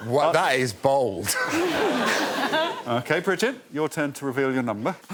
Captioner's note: chuckles